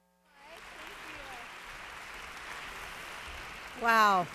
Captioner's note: audience applauds